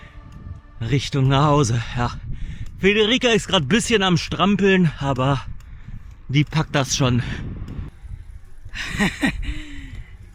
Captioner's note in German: gelächter